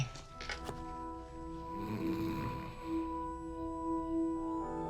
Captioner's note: george snoring